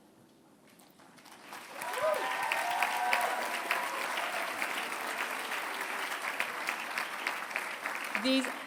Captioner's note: applause